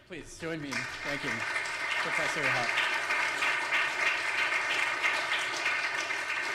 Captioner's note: audience applauds